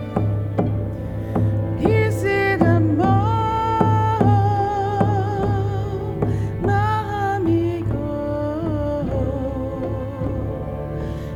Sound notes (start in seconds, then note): 1.9 In Mi’kmaq